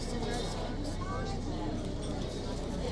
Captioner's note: none